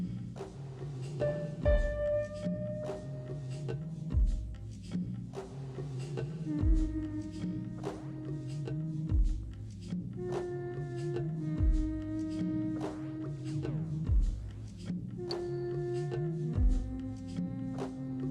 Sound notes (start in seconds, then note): 6.4 woman humming